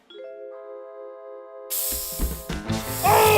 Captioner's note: aerosol sprays